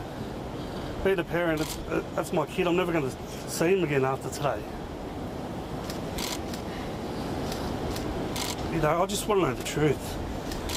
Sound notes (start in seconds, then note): 0.0 stammers; 6.1 cameras clicking